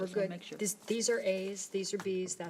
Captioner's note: overlapping chattering